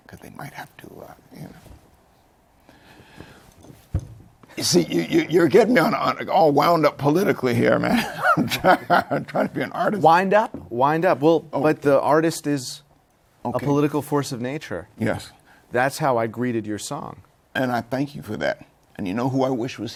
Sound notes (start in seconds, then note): 7.8 laughs